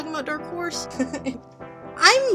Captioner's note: giggles